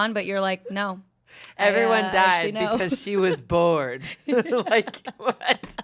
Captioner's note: laughs